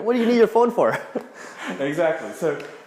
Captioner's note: laughs